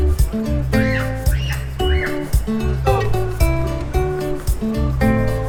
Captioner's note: children playing